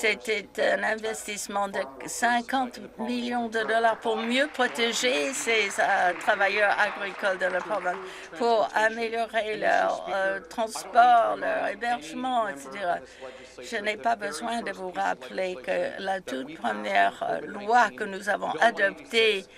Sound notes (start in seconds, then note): 8.8 some Applause